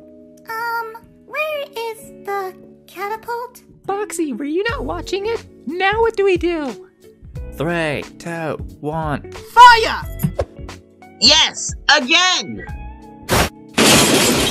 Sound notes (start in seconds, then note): 13.3 crash